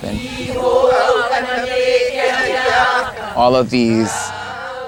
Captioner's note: chanting